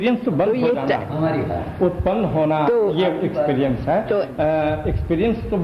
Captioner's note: discussion in Hindi